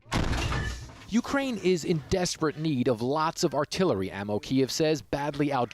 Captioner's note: voice-over